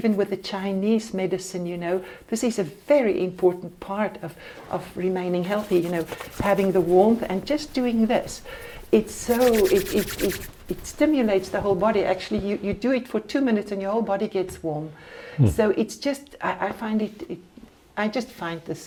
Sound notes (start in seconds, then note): 8.2 rubbing hands